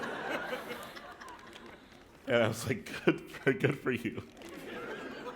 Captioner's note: laughter; chuckle; laughter